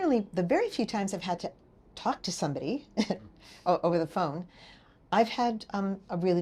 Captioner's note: laughing